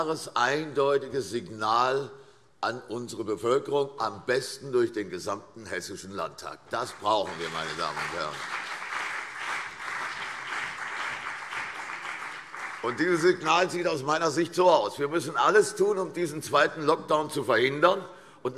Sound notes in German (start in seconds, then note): 9.9 Beifall CDU und BÜNDNIS 90/DIE GRÜNEN